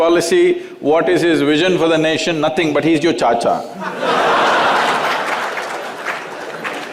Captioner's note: laughter